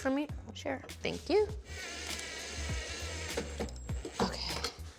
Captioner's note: whirring